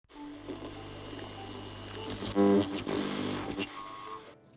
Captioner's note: machine buzzing